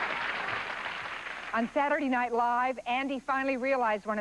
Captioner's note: rhythmic clapping